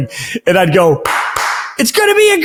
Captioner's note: claps